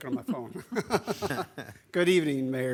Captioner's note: laughs